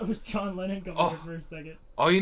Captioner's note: Thomas laughs